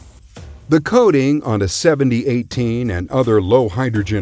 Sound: voiceover

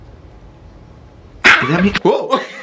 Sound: dog barking

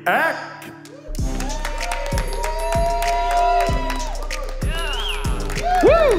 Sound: cheering and Applause

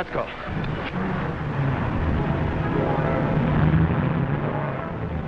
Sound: engine revving

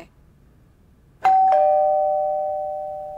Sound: doorbell rings

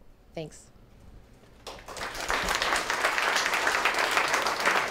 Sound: applause

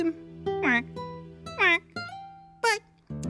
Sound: quacking

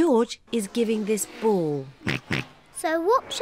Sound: oinks

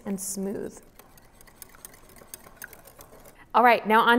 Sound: whisking

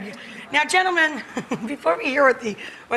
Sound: chuckles

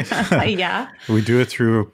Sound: laughs

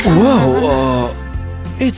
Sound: laughing

